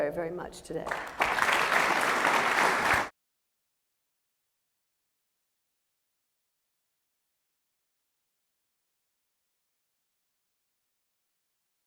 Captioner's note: applause